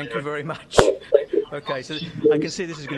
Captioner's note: laughing